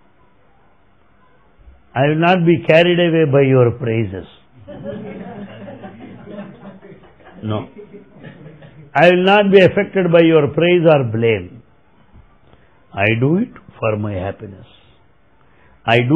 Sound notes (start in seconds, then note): 4.6 laughter